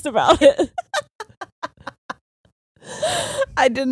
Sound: both laughing

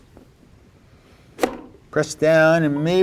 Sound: blade thunks

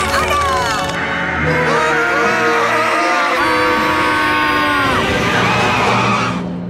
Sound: screaming

